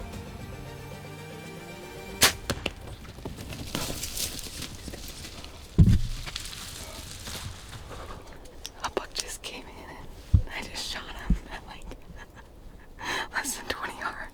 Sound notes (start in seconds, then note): 2.2 shot fires; 4.4 underbrush rustles